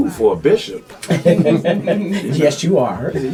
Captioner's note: all laugh